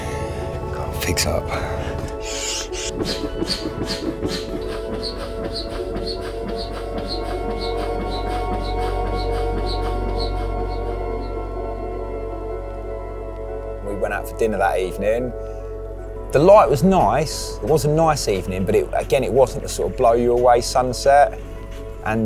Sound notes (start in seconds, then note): 2.3 air pumping